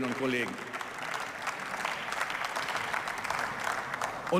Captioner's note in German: Beifall